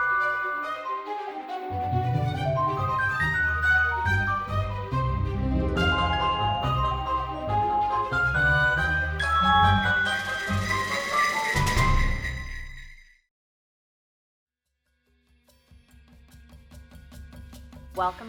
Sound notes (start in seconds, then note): 9.2 sleigh bells ringing; 16.2 suspenseful music